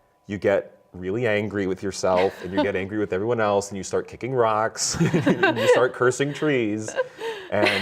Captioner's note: laughs